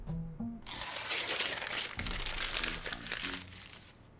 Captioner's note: paper ripping